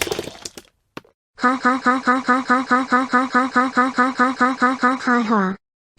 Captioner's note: lauging in agony